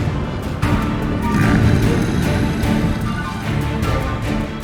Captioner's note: low growl